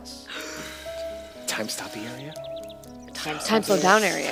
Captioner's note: gasps